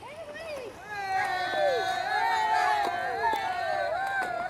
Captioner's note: children shouting